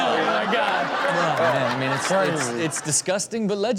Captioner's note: audience laughs